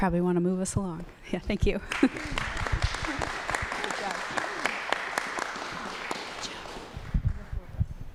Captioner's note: applause